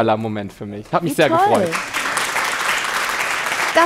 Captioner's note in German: Applaus